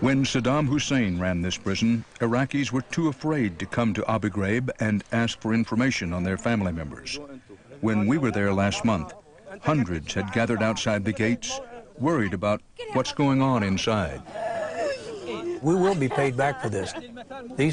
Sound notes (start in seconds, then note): 14.2 woman sobbing; 14.3 people chattering